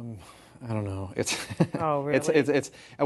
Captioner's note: laughter